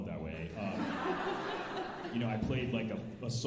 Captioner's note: alumni laughing